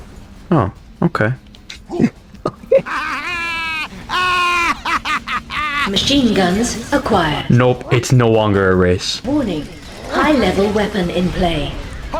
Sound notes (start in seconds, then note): 2.3 The Rats Laughing; 2.4 laughs to myself